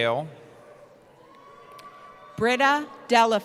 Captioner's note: cheering